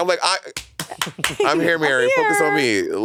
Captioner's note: Monét clapping